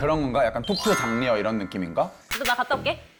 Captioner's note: sound effect promoting civic duty